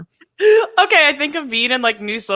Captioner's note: chuckles